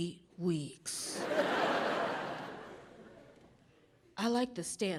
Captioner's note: audience laughing